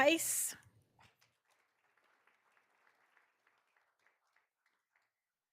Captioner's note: all applauding